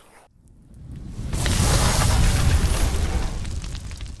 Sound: air whooshing; flames crackling

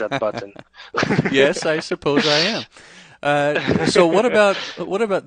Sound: laughs

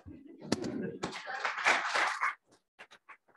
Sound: applause

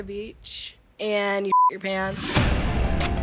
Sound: beep

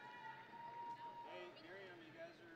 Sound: audience and graduates cheering

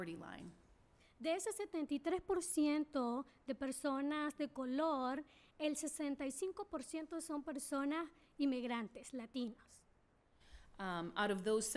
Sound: speaking spanish

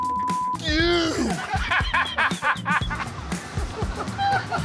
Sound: laughter

